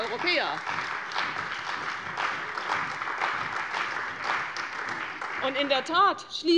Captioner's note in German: Beifall bei der CDU und bei dem BÜNDNIS 90/DIE GRÜNEN